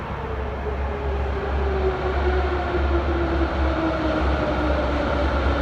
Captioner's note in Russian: прибытие поезда на станцию